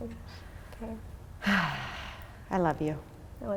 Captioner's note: sighing